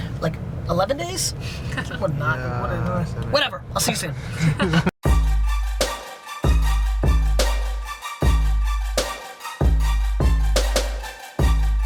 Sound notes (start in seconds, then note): 4.3 everyone laughs; 5.0 upbeat hip hop music